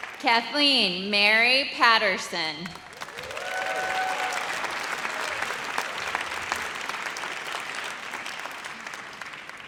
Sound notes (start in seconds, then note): 2.9 audience cheers